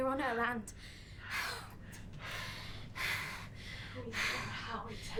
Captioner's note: women panting